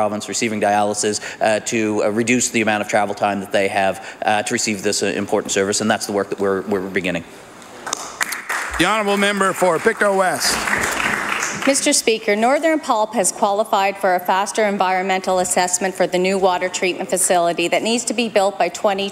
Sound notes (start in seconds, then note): 12.6 applause